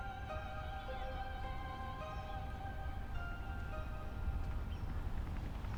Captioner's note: helicopter whirring heard